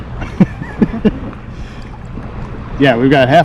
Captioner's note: laughs